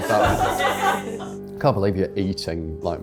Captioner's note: crew laughing